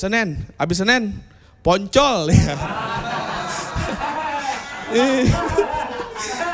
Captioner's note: applause